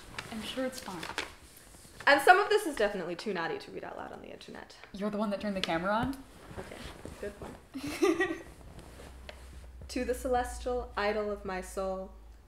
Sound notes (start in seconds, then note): 7.8 laughs